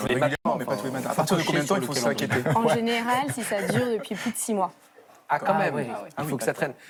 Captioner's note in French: rires